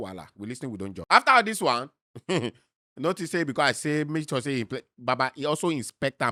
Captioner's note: chuckles